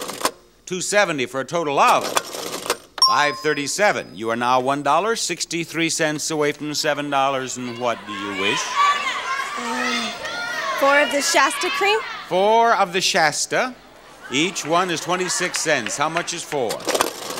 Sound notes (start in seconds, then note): 9.1 audience yelling